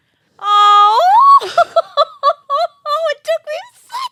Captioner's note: laughs